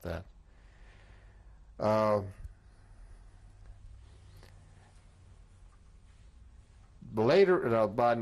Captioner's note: pauses for 3 seconds